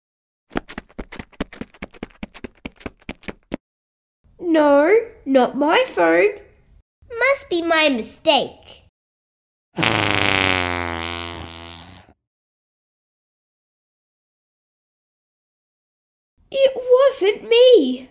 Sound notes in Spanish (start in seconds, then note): 9.7 ¡Brrrrapppp!